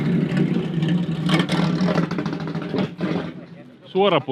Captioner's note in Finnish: moottorin ääni